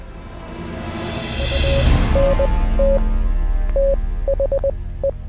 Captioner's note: code beeps